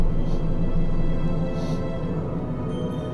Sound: sniff

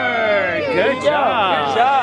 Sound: cheering

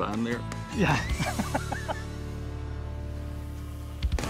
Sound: laughs

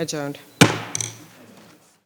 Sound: banging the table

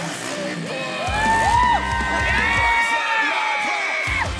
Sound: energizing country music; crowd cheering; energizing country music

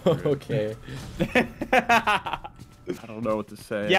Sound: laughing

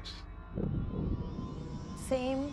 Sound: thunder

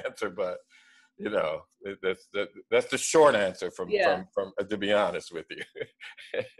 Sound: laughs

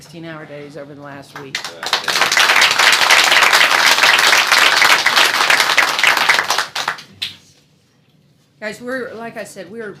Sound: applause

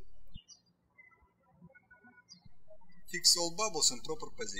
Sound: birds chirping

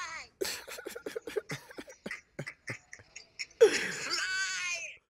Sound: both laughing together

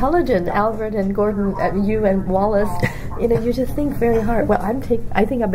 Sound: laughs

